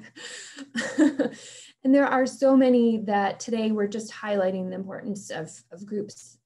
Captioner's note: chuckling